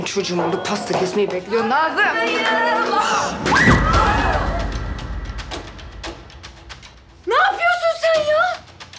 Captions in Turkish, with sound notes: Benim çocuğum orada pasta kesmeyi bekliyor! Nazım! (Bahar çığlık attı) Sen ne yapıyorsun?